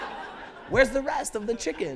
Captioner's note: laughter